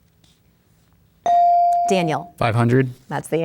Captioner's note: bell dings